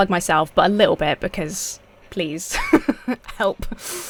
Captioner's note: laughs